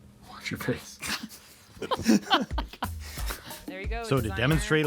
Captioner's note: laugh